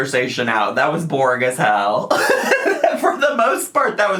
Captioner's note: laughs